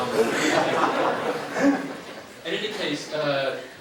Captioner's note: crowd laughing